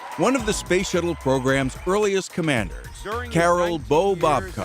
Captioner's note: applause